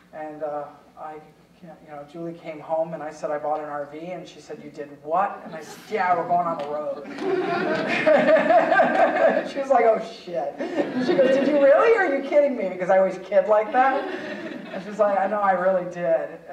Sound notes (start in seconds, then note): 6.9 audience laughing; 6.9 laughing